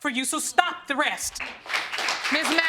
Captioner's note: audience applauding